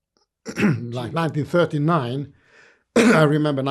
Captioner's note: coughing